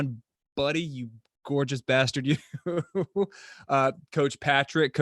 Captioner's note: chuckles